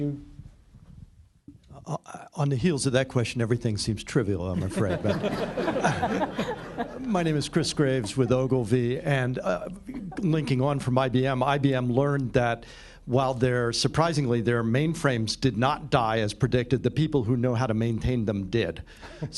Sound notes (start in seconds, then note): 6.3 laughter; 19.0 laughter